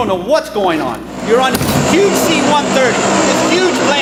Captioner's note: plane engine rattling